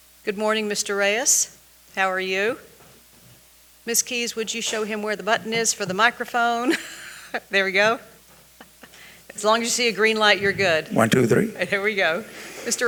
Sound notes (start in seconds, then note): 6.6 chuckling